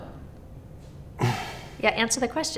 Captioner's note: interviewee in light blue sighs